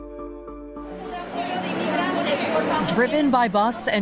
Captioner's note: immigrants speaking Spanish